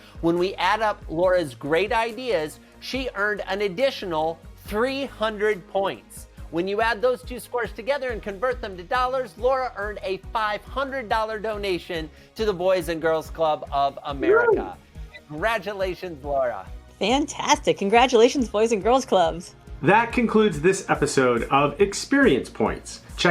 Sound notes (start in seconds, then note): 14.2 whoops